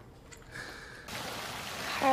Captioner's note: running water